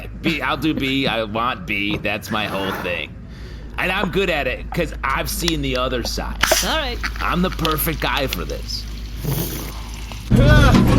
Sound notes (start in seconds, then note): 6.4 Derf cracks open a canned egg and it fizzes